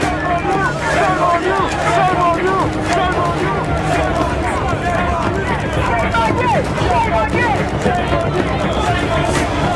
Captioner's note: chanting